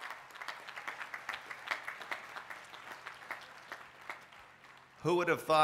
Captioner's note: applause